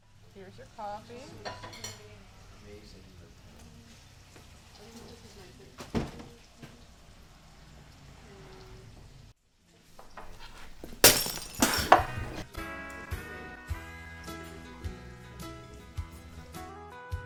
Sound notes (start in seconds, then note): 10.0 crash; 11.8 country music playing